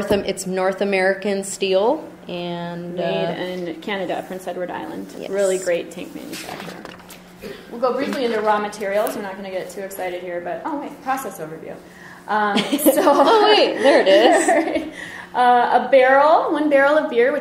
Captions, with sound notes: It's North American steel. - [Voiceover] Made in Canada, Prince Edward Island. Really great tank manufacturer. We'll go briefly into raw materials. We're not gonna get too excited here, but, oh, wait, process overview. (laughter) - [Voiceover] Oh wait, there it is. - [Voiceover] A barrel, one barrel of beer,